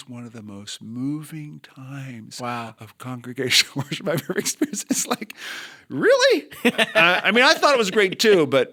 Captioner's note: chuckle